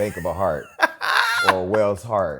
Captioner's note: laughs